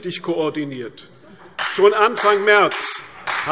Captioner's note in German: Vereinzelter Beifall CDU und BÜNDNIS 90/DIE GRÜNEN